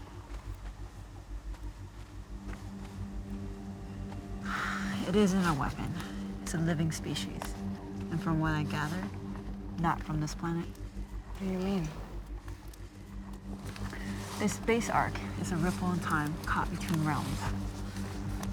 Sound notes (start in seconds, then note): 4.4 sighs